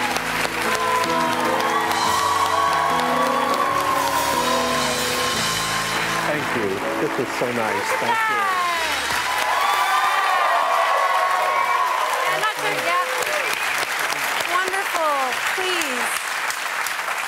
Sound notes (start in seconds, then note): 1.7 cheers and applause; 17.1 cheers and applause